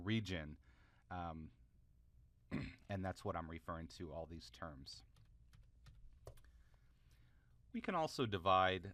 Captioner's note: cough